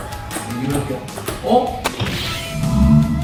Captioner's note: suddenly speeds up